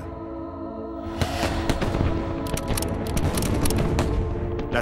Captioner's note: gunshots